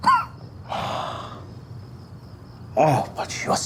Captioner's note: Miles coughs; Janus sighs